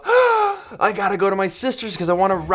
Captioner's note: gasp